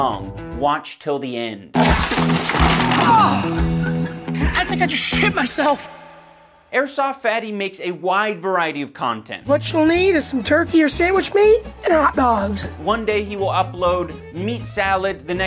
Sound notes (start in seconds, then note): 1.7 trips